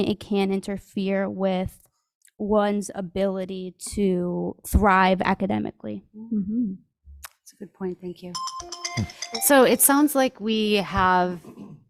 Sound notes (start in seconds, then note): 8.3 alarm beeping